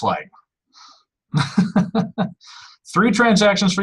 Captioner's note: laughs